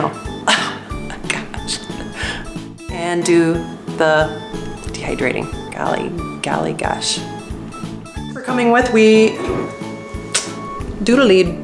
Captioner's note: haha!